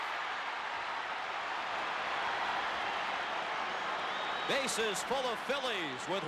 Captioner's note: applause